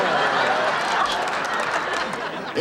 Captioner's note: audience laughing